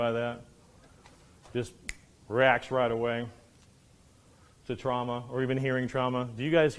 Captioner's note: snaps